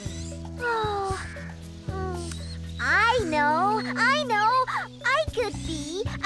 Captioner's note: sighs